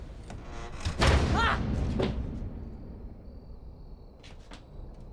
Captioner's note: door creaking; bucky screams; thunder booming